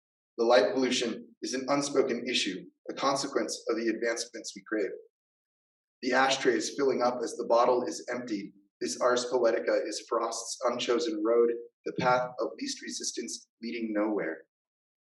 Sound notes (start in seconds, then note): none